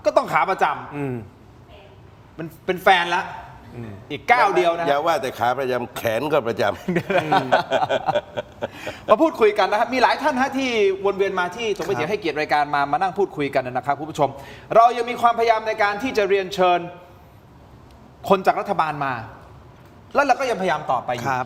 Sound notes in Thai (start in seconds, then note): 6.8 เสียงหัวเราะ